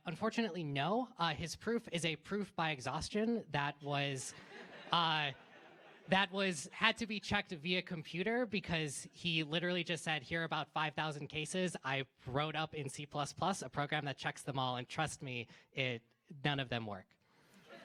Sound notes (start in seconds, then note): 4.2 laughter